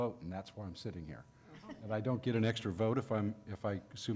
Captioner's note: laughter